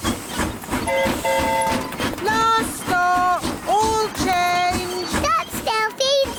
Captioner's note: train whistle blowing